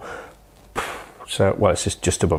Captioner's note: puffs air